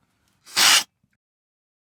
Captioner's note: slurp